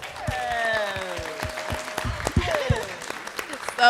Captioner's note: applause